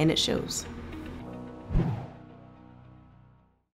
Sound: bright music; air whooshes

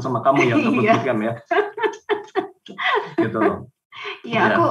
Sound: laughing

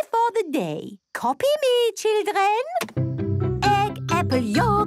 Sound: clicks; singing

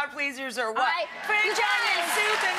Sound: audience clapping

